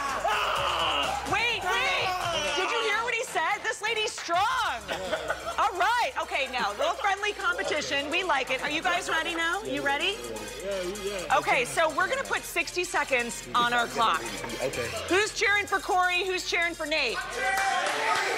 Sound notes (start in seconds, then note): 0.0 cheering; 4.8 laughter; 5.0 yelling